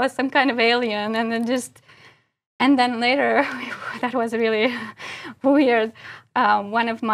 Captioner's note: laugh